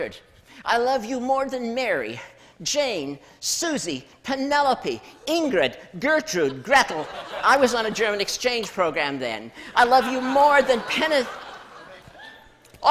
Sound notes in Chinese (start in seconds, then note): 6.4 笑聲